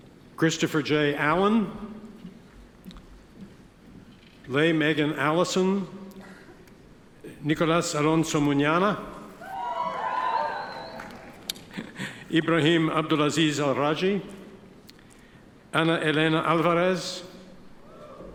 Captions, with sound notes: Christopher Jay Allen. Lea Megan Allison. Nicolas Alonzo Muniana. (audience cheers) (chuckles) Ibrahim Abdul-Aziz al-Raji. Ana Elena Alvarez.